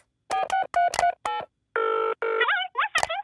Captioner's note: dials phone; on phone